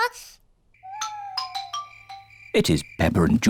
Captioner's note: owls hoot